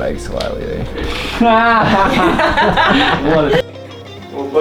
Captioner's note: laughing